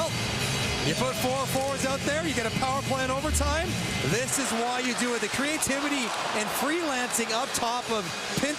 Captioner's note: cheering and Applause